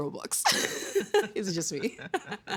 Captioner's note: laughing